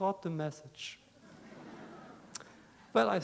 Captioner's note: laughter